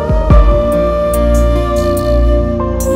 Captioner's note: Mouthing